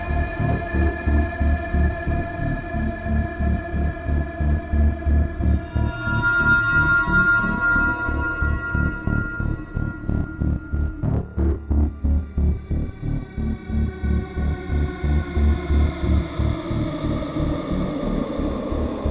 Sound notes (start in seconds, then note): 5.7 image shrieking; 10.1 intense pulsing music